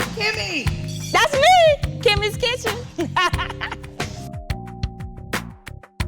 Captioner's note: chuckling; upbeat music